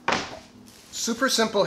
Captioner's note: clunks